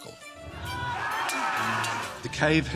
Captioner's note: all shouting